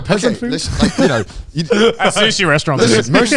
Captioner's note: group laughs